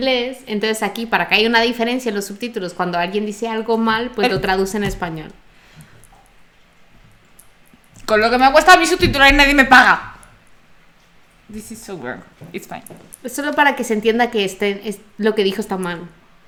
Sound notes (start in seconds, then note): 11.4 frustrated in Spanish